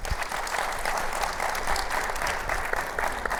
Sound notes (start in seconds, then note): 0.0 people clapping